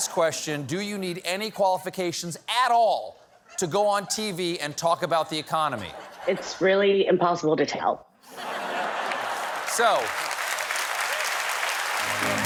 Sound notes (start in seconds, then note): 8.2 laughter; 8.9 applause